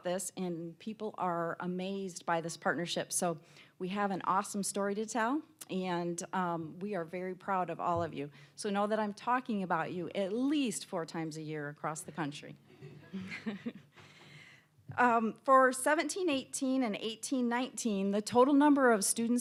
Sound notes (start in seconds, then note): 12.8 laughing